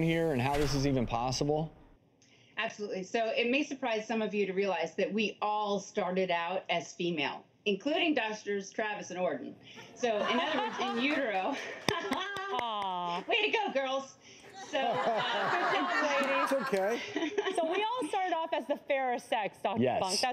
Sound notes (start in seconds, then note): 9.8 audience laughs; 14.5 laughter